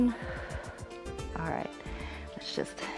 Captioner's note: inhales; exhales